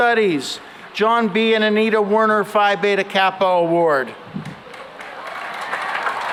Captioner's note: applause